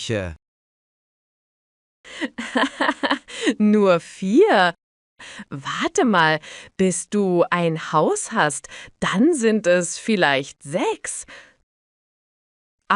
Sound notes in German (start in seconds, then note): 2.2 lacht